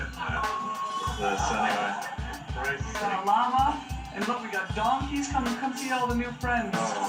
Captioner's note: laughter